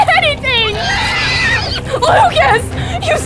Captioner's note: Katanah neighing